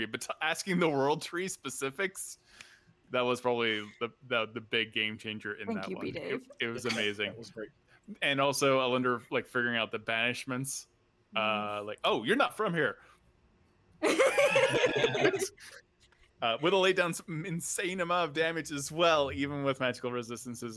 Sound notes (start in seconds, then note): 14.1 laughs